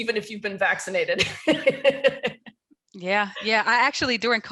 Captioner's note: laughs